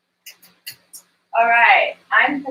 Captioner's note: oven dials click